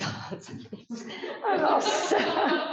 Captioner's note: laughter